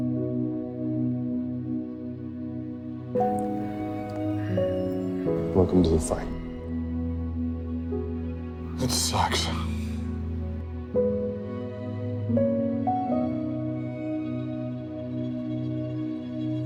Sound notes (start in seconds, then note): 5.5 voiceover